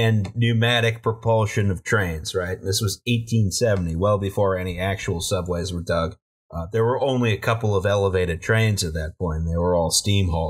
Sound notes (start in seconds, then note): none